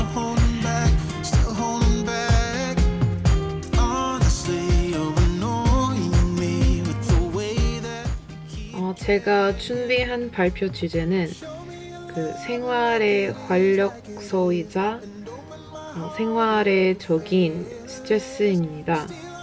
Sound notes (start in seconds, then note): 0.0 speaks Korean; 0.2 bright upbeat music; 8.5 speaks Korean